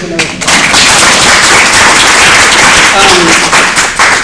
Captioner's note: applause